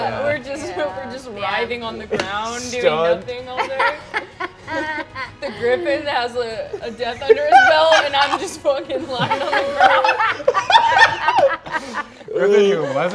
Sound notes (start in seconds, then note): 3.6 laughing; 8.9 players laughing